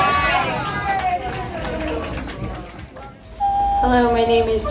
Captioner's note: people applauding